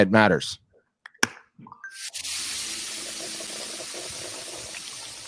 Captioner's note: water pouring